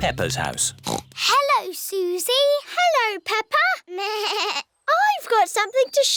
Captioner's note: snorts; bleats